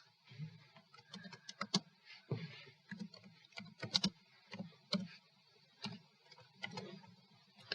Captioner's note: typing